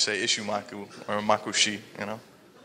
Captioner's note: speaking foreign language